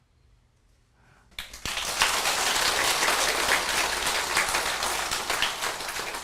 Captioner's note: applause